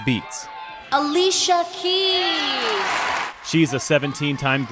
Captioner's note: cheering